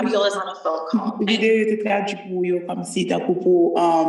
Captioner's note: speaking haitian creole